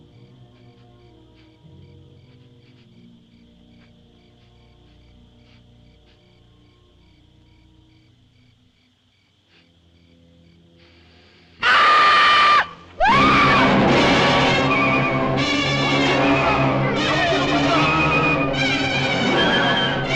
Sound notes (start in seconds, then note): 10.7 sniffing; 11.6 screaming; 17.1 clamoring